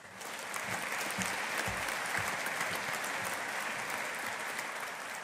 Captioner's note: audience applauding